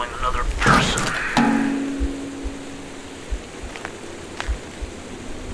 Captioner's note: metallic clang